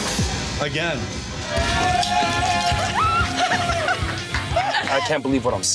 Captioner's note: cheering